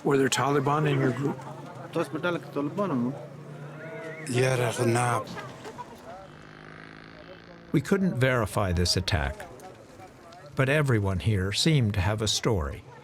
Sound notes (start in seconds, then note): 0.0 speaking Pashto; 2.1 interpreter speaking Pashto; 4.7 speaking Pashto